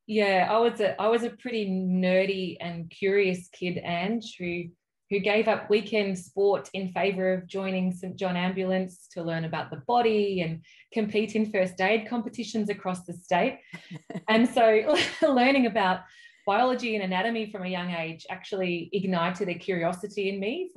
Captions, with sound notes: - Yeah, I was a pretty nerdy and curious kid, Ange, who gave up weekend sport in favour of joining St John Ambulance to learn about the body and compete in first aid competitions across the state, and so (laughs) learning about biology and anatomy from a young age actually ignited a curiosity in me